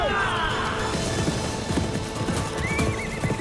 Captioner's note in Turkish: At nalı sesleri